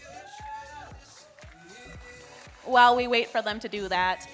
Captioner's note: audience member cheers